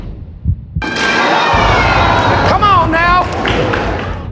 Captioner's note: crowd